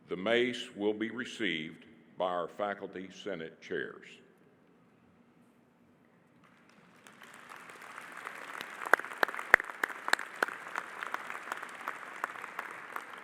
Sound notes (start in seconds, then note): 6.4 audience applauding